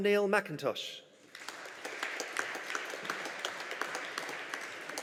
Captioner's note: audience applauding